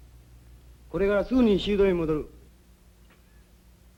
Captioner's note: speaking japanese